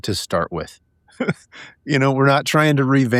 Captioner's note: laughing